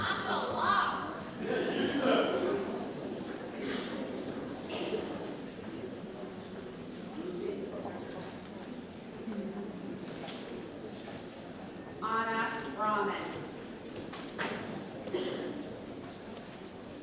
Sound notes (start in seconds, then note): 10.1 camera clicking